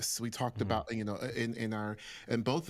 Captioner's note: none